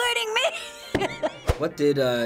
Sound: laughs

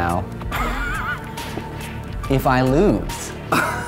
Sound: laughing

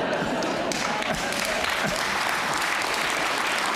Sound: audience applause

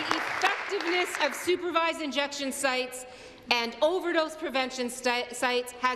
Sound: applause

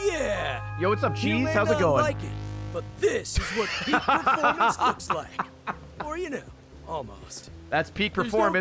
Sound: laughs

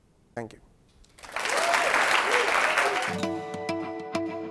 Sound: applause

